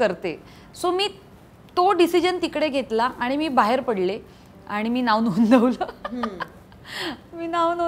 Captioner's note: Chuckles